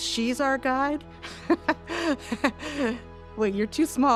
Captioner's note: laughing